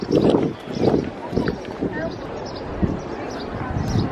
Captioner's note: birds chirping; wind whirring